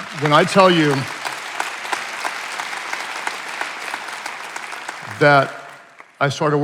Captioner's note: attendees applauding and cheering